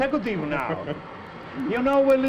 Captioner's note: Willie chuckles